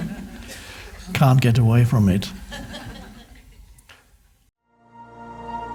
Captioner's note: crowd laughs; inspiring music